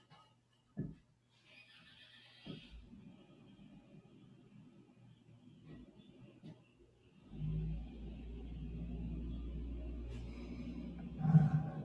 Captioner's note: silence